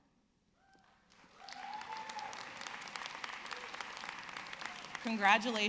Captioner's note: audience clapping